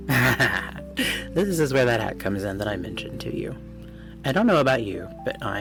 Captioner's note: gremlin laugh